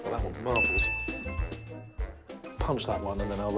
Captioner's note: correct ding sound